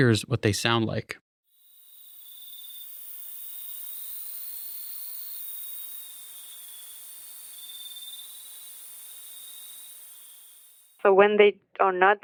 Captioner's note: clip of crickets